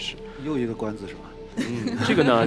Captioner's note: laughs